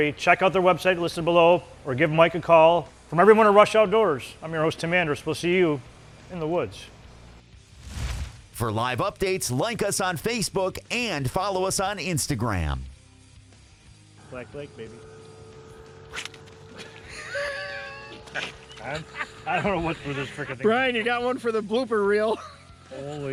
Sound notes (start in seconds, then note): 16.7 laughs